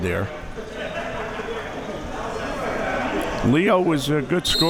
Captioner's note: audience chattering and yelling